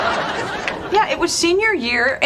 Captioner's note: laugh Track